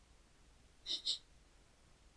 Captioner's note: quiet snickering